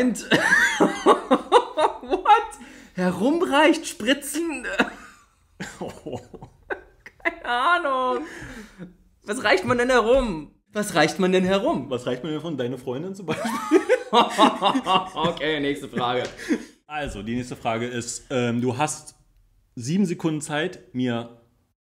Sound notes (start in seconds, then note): 5.6 laughs; 13.4 laughs